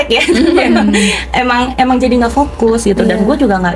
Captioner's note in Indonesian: tertawa